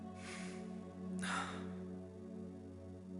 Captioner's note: sighs